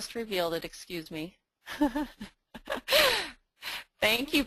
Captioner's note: laughing